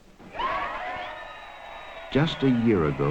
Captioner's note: crowd cheering